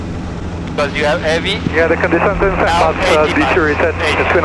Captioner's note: radio chatter